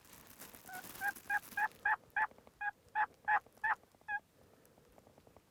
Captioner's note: turkey calling louder